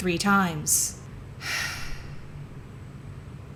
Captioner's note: tired sigh